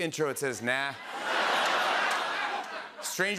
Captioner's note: laughter